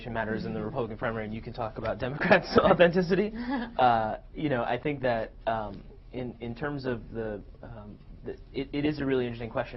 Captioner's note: laughter